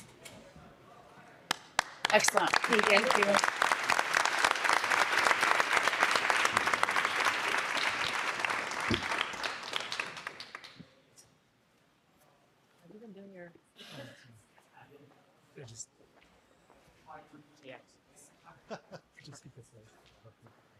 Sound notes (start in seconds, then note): 1.5 audience applauding